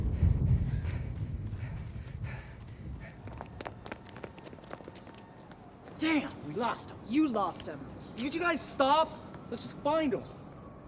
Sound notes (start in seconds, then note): 0.0 both pant